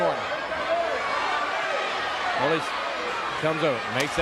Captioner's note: crowd cheering